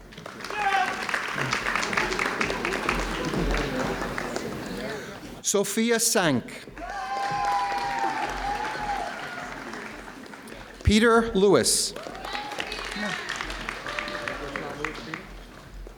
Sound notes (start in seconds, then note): 0.0 audience clapping; 6.7 audience cheering